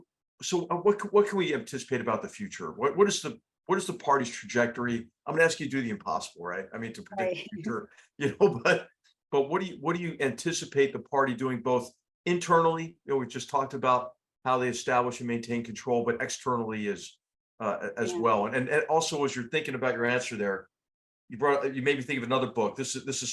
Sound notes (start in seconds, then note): 8.2 laugh